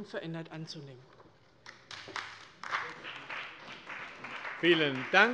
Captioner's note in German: Beifall bei der CDU